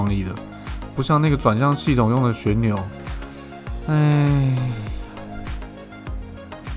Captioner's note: sigh